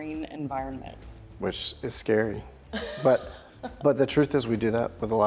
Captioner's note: laughs